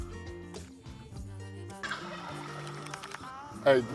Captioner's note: turkey gobbles in distance